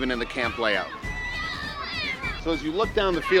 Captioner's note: children playing